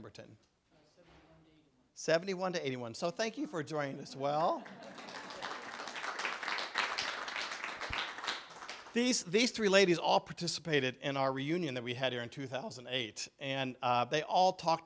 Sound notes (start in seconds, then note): 4.5 clapping